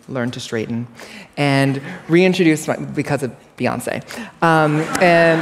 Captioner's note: laughter